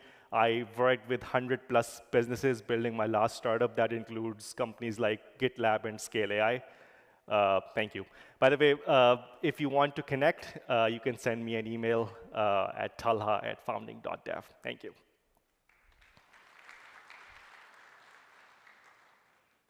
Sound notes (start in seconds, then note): 15.6 applause